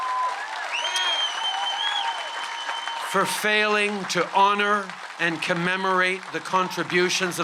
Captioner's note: cheers & applause